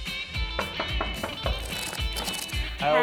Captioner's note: jazzy guitar music; knock on door